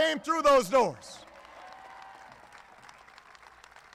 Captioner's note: applause